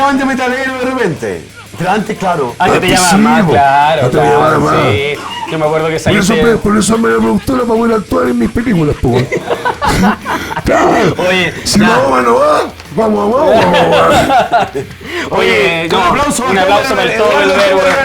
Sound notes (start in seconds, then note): 9.8 laughs